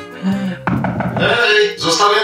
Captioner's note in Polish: pukanie do drzwi, głos